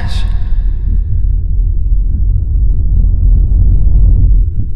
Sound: air rumbles

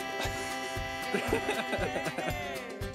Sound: laughs

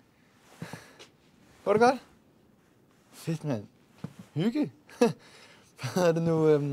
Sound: speaking Danish

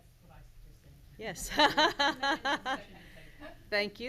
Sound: laughs

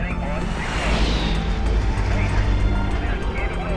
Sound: engine roaring; radio chattering

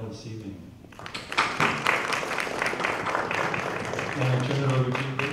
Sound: applause

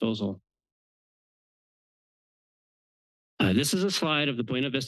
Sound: pause

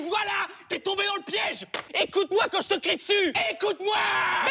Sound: shouting rage; shouting

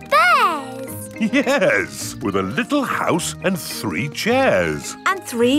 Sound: chuckling

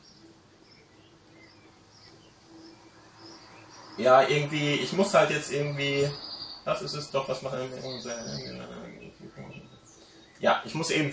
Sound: jabbering

